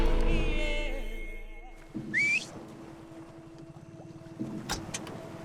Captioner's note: whistles